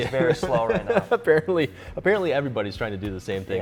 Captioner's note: laughs